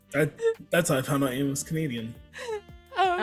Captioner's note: laughs